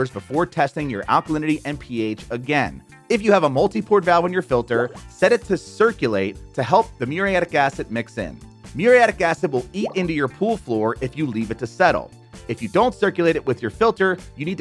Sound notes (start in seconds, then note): 4.6 graphics popping; 9.6 graphics popping